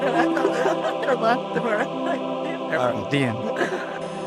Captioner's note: laughter